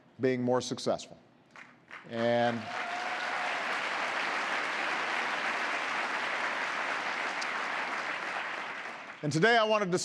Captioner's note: applause